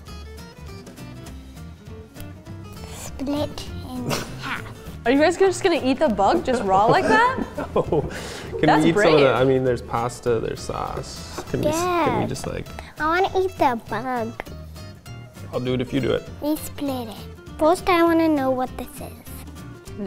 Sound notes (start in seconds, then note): 0.3 upbeat music; 6.5 laughs